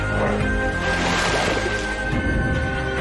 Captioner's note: water splashes